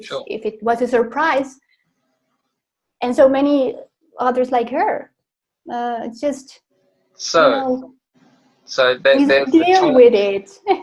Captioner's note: Risas